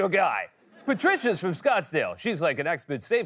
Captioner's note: laughter